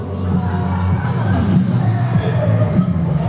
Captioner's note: the set is already bursting into laughter as appears